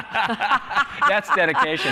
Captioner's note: laughter